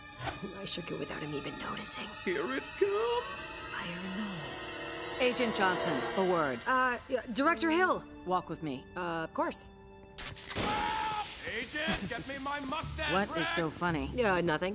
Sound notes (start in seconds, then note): 10.1 can opens and explodes; 10.6 Dugan screams